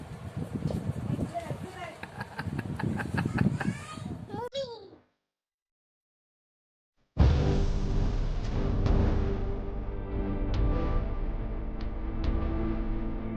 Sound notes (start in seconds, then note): 2.0 loud laughter